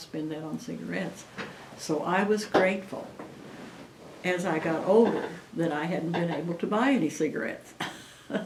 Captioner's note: laughs